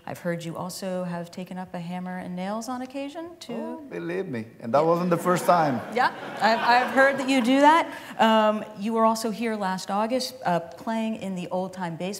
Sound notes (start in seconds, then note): 5.2 laughter